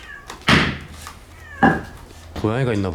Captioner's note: meow